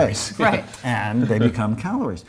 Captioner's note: chuckles